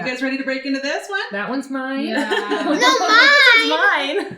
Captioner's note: laughs